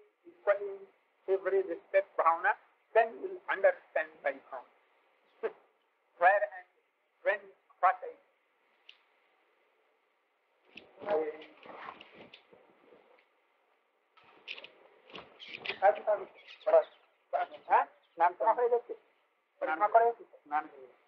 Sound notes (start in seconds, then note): 8.5 Hindi; 8.5 break with no speaking